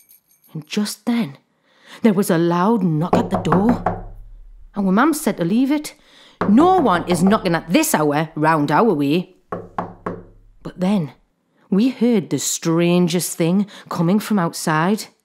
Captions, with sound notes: and just then there was a loud knock at the door. [KNOCKING] Our Mam said to leave it. [KNOCKING CONTINUES] No one is knocking at this hour round our way. [KNOCKING CONTINUES] But then we heard the strangest thing coming from outside.